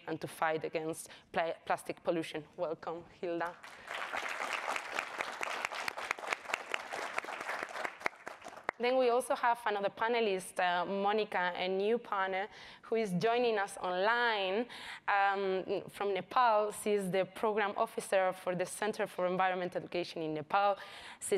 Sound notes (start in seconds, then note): 3.5 audience applauds